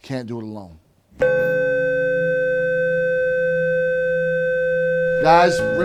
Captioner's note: bell beeping